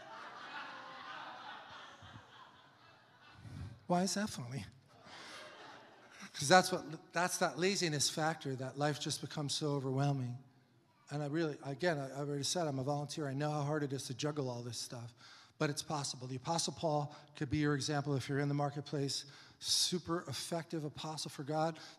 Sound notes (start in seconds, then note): 0.0 congregation laughs; 5.0 laughs